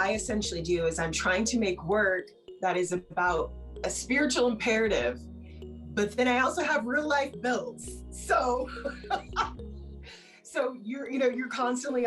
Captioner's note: laughing